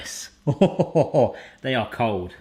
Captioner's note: laughing